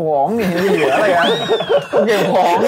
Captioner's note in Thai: หัวเราะ